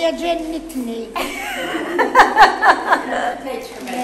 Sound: laughs

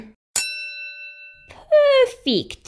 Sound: ding!

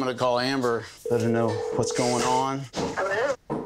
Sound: phone ringing

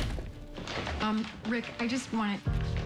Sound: door closes

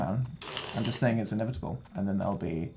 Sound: Phil's mouth sounds

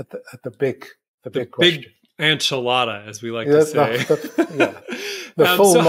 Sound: chuckle

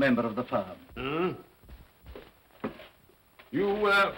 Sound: Scrooge grunts

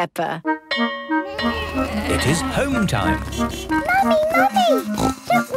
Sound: bell clanging; honking

